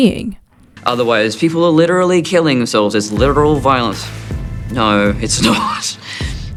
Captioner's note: scoffs